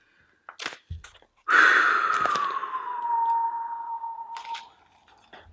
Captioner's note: impressed whistling noise